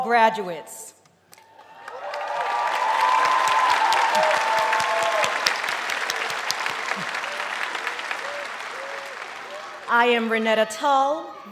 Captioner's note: applause